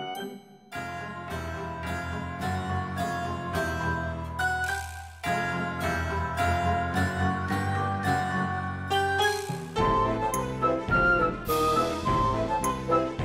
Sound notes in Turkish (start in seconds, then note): none